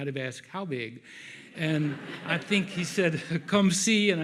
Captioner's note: audience laughs